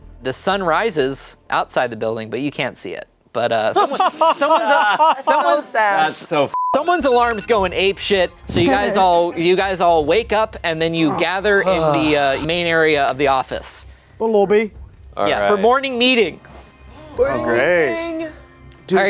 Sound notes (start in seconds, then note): 3.6 laughing; 6.5 beep